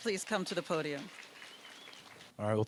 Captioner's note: applause